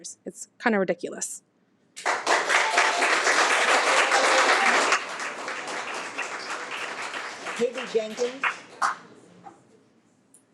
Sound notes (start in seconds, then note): 2.0 audience clapping